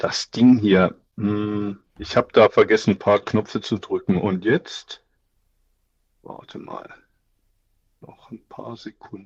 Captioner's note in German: räuspern